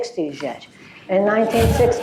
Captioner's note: laughter